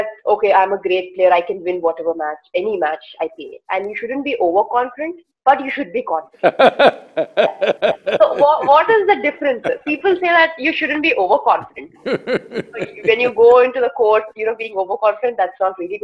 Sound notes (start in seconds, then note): 6.4 Sadhguru laughs